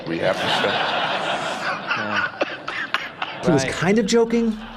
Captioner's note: laughing